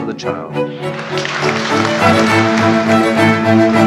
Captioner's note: applause